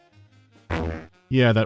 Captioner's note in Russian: электропук